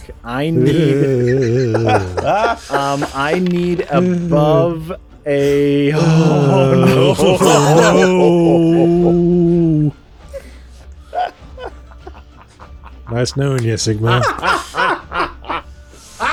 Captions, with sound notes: I need. I need above a... (various sounds of shock and worry) (maniacal laughing) Nice knowing ya Sigmar